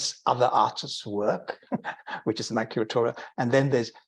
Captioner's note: chuckling